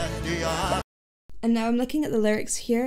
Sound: audio pops

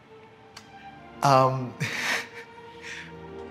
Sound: laughs

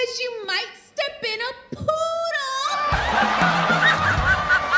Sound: audience laughing

